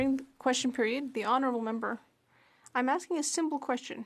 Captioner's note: speaking French